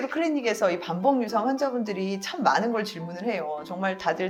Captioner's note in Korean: none